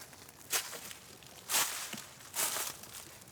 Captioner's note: leaves crunch